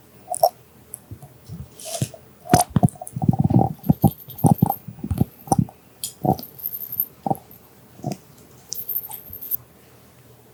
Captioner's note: glug glug